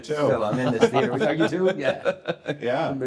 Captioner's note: everyone chuckling